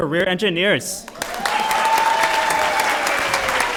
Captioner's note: applause